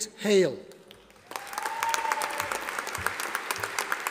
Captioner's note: audience applauding